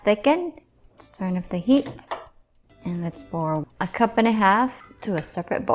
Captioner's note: stove clicks